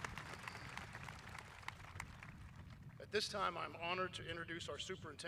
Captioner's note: applause